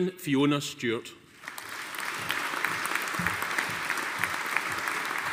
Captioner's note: audience applauding